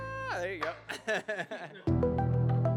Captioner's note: chuckles; inquisitive music